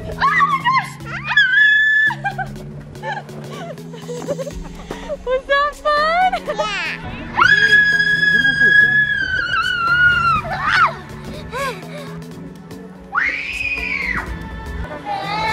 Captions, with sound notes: - Good...oh my gosh! (screams and laughs) Was that fun? - Yeah! - (screaming) Whoa! (gasps) - (screaming) Oof.